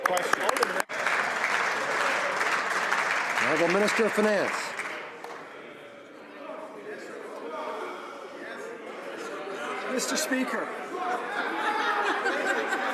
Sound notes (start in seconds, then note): 3.3 some Applause